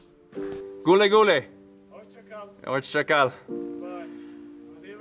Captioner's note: group speaking in foreign language